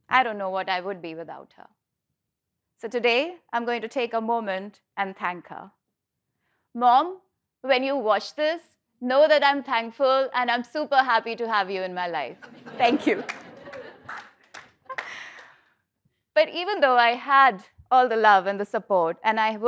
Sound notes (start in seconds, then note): 12.8 applause